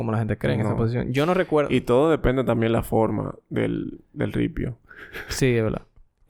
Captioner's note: laughs